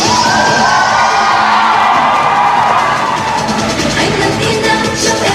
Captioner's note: cheering